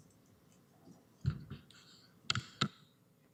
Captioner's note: audio drop